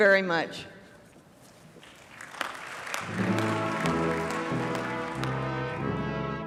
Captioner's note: applause